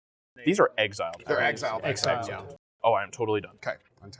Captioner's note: general agreement from the table